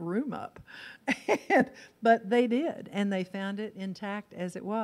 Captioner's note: laughs